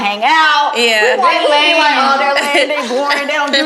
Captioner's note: group laughing